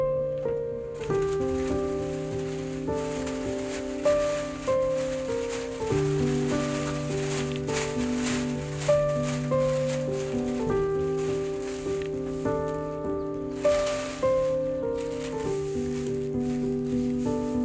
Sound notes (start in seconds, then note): 0.0 atmospheric music; 2.1 paper noise